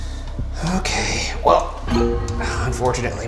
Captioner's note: alarm chimes